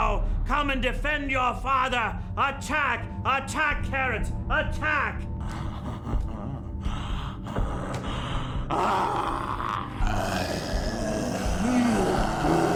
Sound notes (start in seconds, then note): 5.4 laughs; 8.6 growling; 8.6 growls